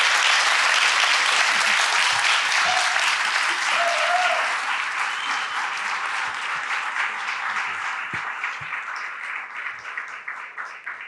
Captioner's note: applause